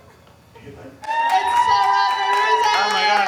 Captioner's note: audience cheering